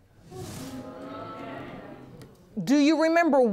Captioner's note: audience gasps